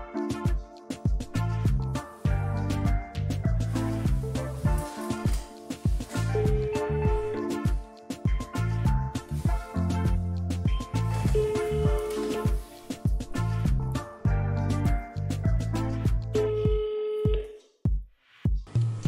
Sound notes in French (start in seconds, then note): 0.3 gentle music; 6.4 phone rings